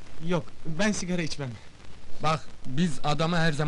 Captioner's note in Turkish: none